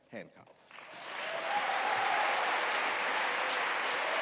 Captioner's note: applause